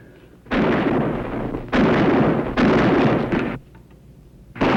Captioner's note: gunshots